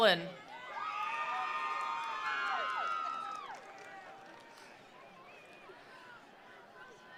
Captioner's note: attendees cheering; attendees applauding